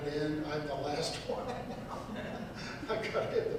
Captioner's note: laughs